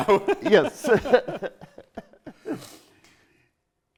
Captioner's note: laughing